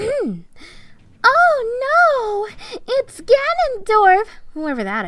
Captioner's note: clears throat; Sarcastic